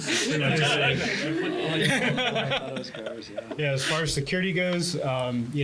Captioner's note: laugh